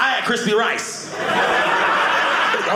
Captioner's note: audience laughing